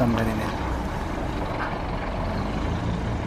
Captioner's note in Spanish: sonido ambiente del bus